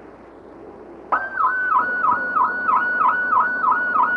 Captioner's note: sound of siren